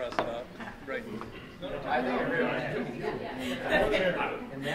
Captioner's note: crowd murmuring